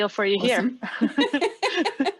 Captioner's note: laughing